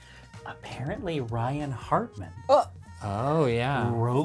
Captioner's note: exclaims